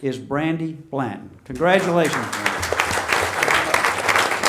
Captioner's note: audience applauding